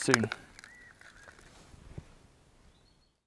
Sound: birds chirping

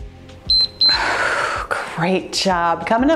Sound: timer beeps

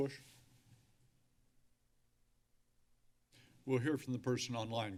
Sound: silence

